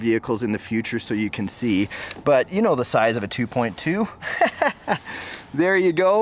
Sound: laughs

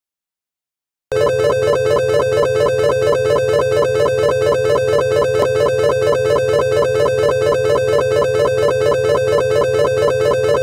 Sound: sound of alarm

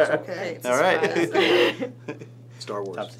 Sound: laughs

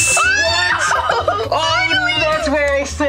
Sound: both exclaim

